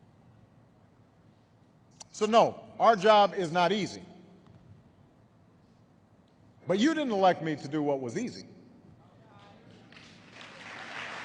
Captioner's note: applause